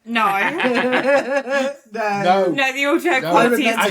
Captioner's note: laughter